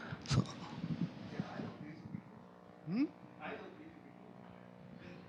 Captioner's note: speaking off microphone